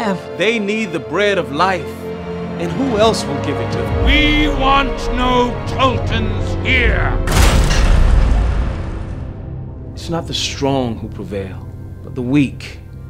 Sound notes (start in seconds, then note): 7.2 smashing & Thunder